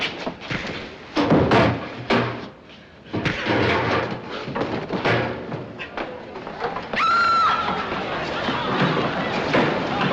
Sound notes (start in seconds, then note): 6.9 screams; 7.8 crowd chattering